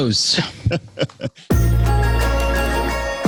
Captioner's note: laughing; upbeat music